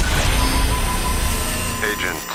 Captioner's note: electronic distortion